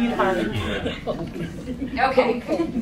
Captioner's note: laughter